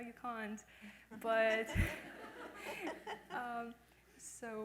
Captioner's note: laughs